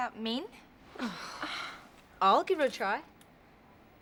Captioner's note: all sighing